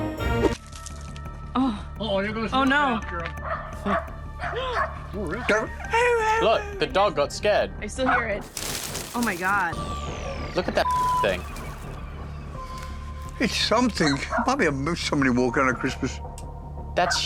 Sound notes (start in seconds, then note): 4.4 imitating dog barking; 4.4 dob barking